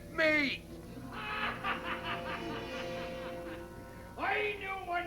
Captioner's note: laughing